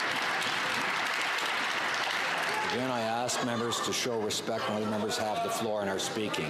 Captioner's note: some Applause